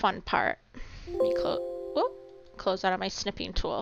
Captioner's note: computer chiming